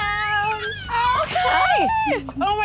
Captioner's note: door creaking